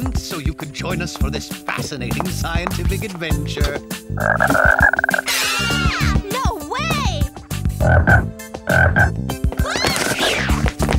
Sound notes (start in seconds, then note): 4.1 croaks; 8.6 croaks